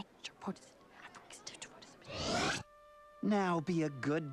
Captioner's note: whispering